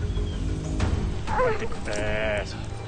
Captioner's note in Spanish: Quejidos